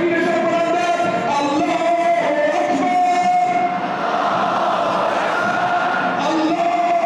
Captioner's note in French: Arabic spoken language